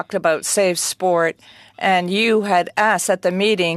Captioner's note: speaking french